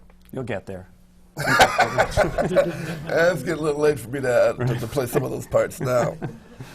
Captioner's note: laughs